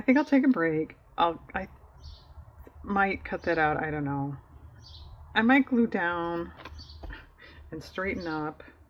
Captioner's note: laughs